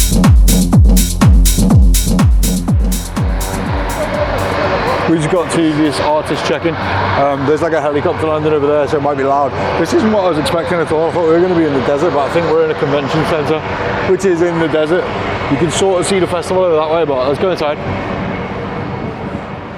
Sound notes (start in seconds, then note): 3.0 upbeat house music fades out; 4.3 cars whirring